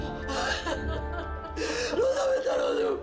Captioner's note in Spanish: Sollozos